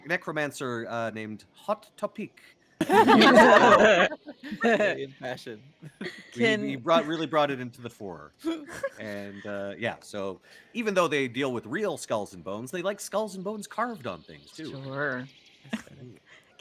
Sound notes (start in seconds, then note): 2.8 laughs; 4.4 Cornette laughs; 8.5 Pegasi laughs